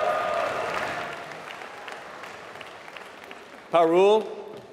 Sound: applause

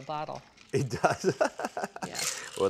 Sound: laughing

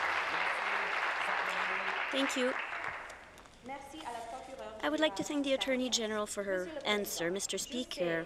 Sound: some Applause

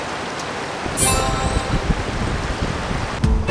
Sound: Adventure Lab completion sound

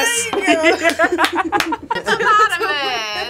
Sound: both laugh

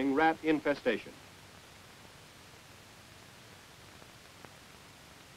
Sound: silence

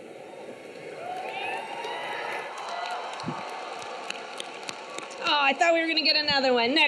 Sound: audience cheering; audience clapping

